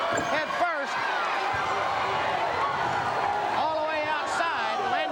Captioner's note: crowd chatter